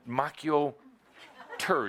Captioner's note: laughter